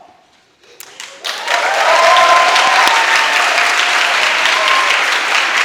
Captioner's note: audience applauding